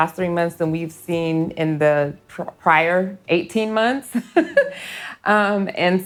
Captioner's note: laughs